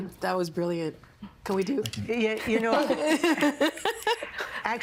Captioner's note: snapping fingers, laughing